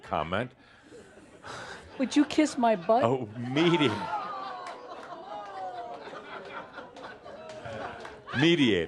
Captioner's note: audience says “Ohh!” and some chuckles